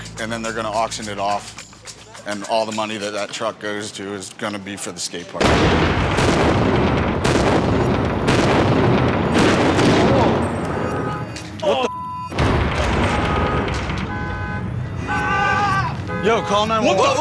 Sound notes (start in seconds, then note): 5.4 explosions; 10.4 car horn sounds; 14.4 beep